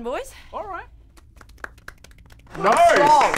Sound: impressed applause

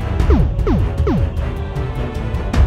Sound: retro computerised blips

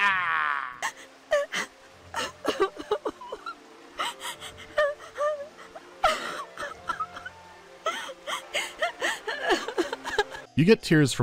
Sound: Rhinemaidens sobbing inconsolably

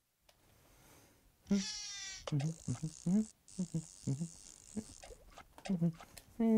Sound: humming

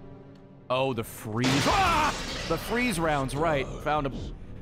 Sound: screams

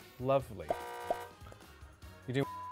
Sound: buzzes; beep

